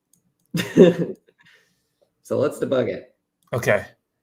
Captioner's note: laughs